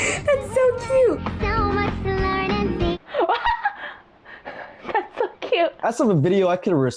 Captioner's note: laughs